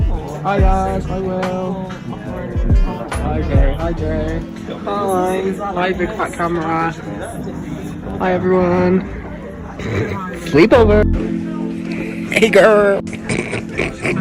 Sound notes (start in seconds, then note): 9.5 snorts; 13.2 snorts